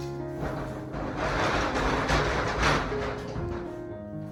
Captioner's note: sound of door closing